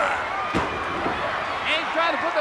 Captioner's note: body thuds